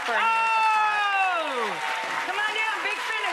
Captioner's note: audience cheering